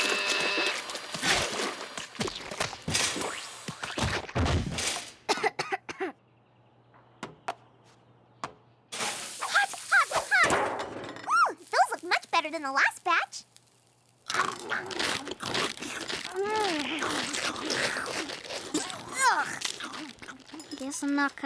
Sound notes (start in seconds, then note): 0.0 smoke hisses; 4.9 coughs; 7.5 sizzling; 13.4 munching